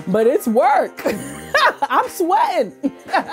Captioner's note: laughs